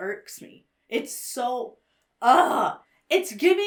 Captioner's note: groans